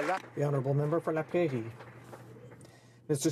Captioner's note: some Applause